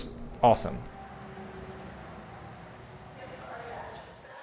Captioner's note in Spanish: ruido de calle